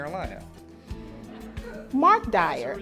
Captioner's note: audience laughter